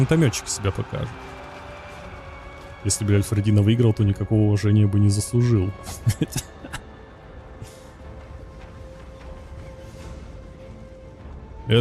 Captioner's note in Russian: смех